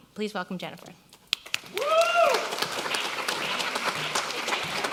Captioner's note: audience applause